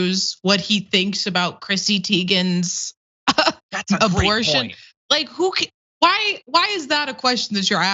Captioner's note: laugh